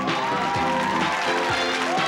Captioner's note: cheering and applause; playful, upbeat music